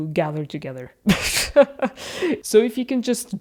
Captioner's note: laughs